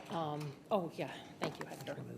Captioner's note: speaking distantly